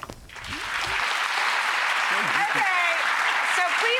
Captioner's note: applause